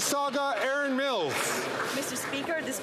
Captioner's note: some Applause